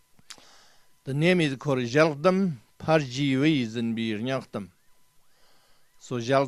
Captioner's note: tibetan; tibetan